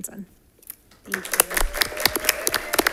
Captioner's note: attendees applauding